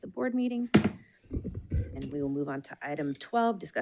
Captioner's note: gavel bangs